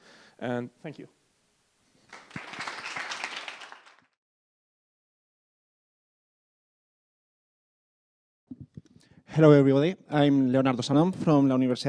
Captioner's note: applause